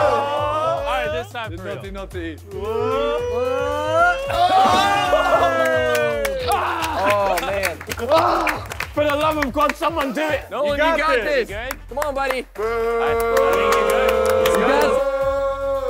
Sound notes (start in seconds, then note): 4.1 contestants cheering and clapping; 8.1 Vik grunting; 12.6 contestants booing